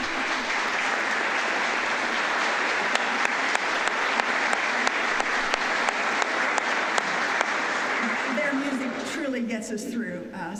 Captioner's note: applause